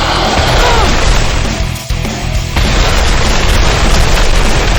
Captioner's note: explosion booming